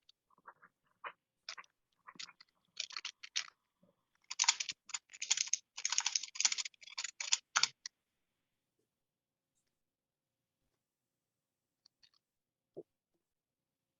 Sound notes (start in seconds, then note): none